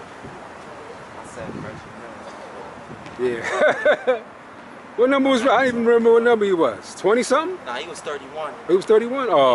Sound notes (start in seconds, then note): 2.4 speaking faintly; 3.4 laughs